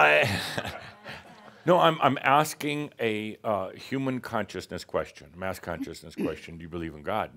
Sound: chuckles

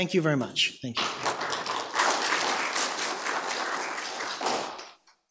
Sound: audience clapping

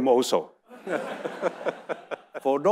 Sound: audience laughing

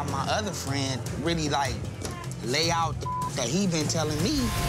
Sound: beep

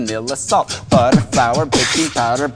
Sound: beatboxing intensifies

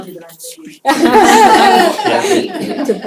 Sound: laughter

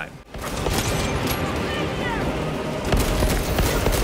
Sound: weapons firing

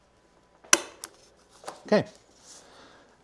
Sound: metal punching through

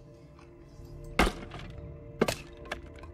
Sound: wood Chop

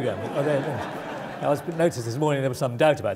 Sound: laugh

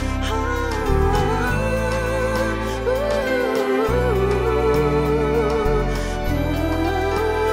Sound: vocalizing Oh's

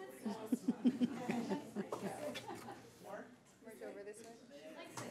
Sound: speech drowned out by chuckling

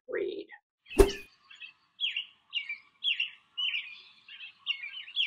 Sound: birds chirping

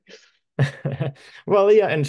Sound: laughs

